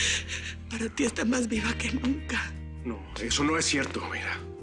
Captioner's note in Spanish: Solloza